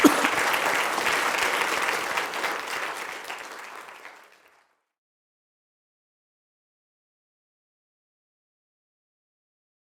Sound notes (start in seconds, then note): 6.4 applause